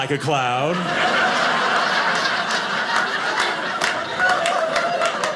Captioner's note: audience laughing